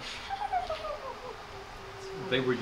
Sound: woman giggling

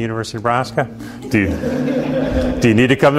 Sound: students laugh

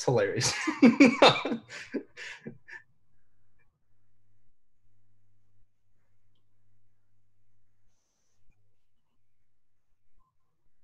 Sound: laughter

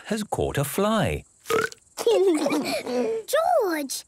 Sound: burps

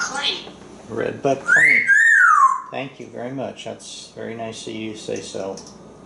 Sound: Einstein whistles

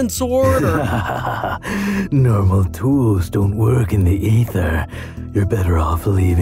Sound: laughs

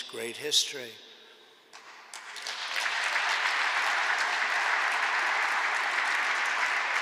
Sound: applause

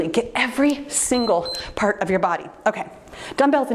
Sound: timer beeps

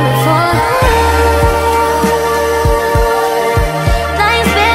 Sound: ooh, ooh

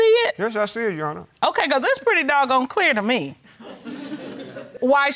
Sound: audience chuckles

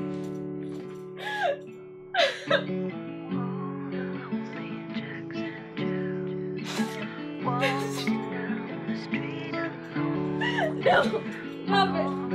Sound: crying

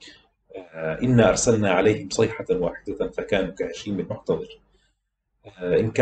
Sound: awful cry

